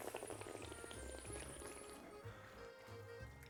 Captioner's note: slurps